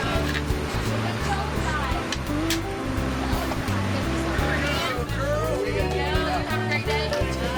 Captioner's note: various conversations